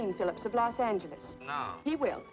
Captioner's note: on telephone